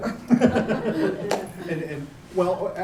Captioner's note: laughter